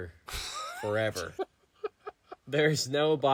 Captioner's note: laughing